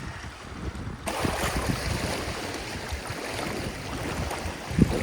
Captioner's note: waves splashing